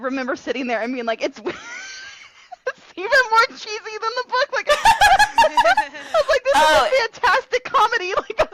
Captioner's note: laughing